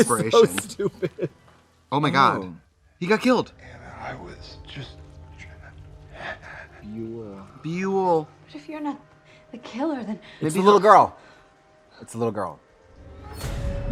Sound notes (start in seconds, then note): 5.9 gasps; 12.6 dramatic music